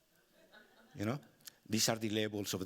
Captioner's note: audience laughing